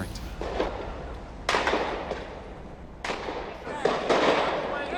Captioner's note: gunshots